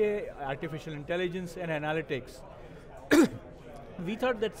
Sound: coughs

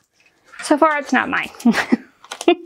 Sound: laughs

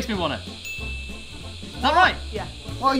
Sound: correct ding

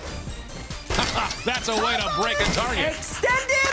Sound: rewinding tape

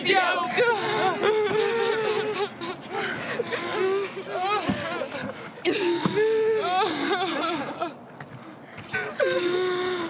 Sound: crying

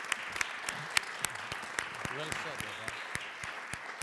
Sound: applause

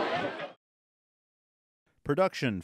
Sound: players Cheering

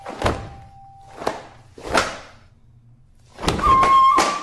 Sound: clothes slapping

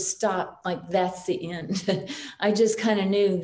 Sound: chuckles

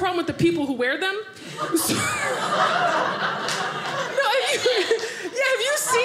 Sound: audience laughing

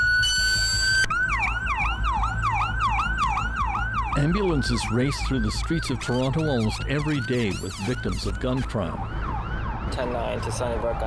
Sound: sirens

